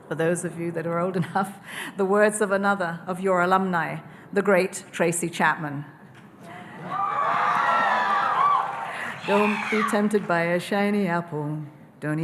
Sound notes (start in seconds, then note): 6.4 audience cheering